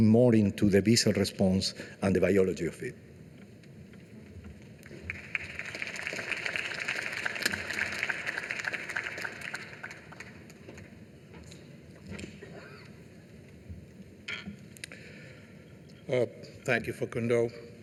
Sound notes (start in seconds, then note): 4.8 applause